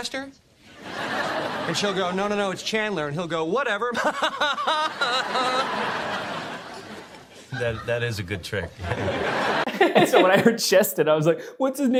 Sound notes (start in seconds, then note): 0.7 laughter; 4.1 forced laughter; 8.6 laughter